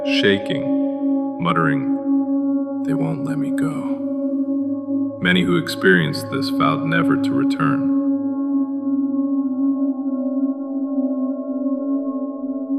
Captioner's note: whispering